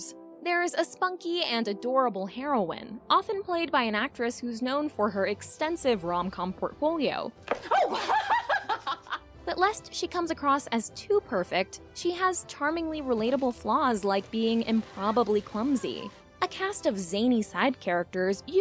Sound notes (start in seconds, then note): 7.6 laughs